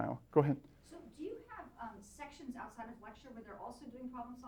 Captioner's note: voiceover